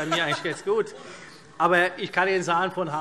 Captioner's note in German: Heiterkeit